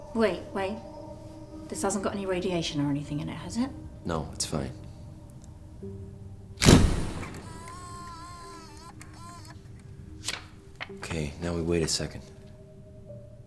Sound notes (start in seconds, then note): 6.6 camera flickers